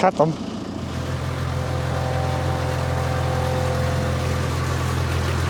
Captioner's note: tractor purring